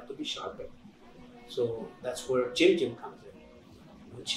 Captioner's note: non-english speech